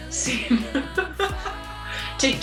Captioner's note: laughs